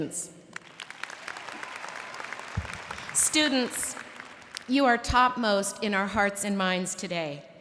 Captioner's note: cheers and applause